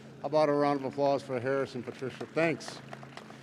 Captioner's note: audience claps